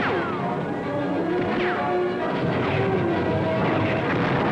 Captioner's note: bullets ricochet; artillery blasting